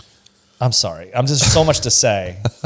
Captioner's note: laughs